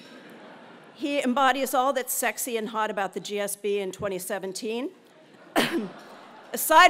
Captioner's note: cough